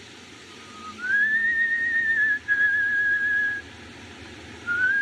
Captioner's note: whistling